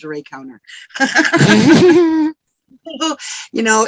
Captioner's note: both laugh